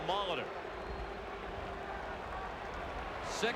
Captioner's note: applause